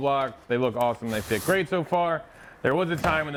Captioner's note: cardboard scraping; door thudding